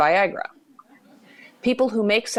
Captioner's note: soft laughter